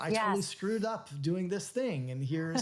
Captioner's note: laughs